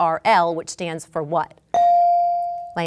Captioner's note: bell dinging